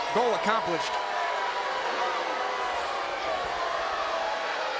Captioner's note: crowd booing